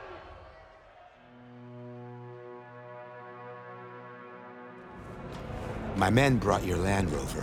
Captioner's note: screaming